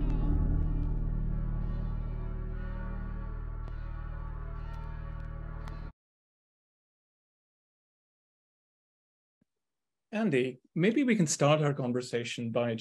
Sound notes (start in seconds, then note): 1.7 bell tolling